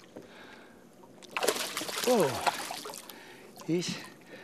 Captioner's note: splashing